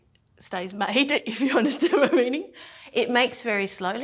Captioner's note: laughs